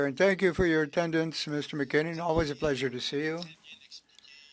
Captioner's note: speaking French